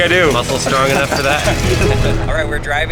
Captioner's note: laughing